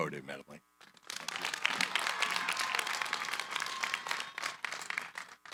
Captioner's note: applause